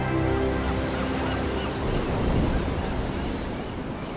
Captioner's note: gulls squawking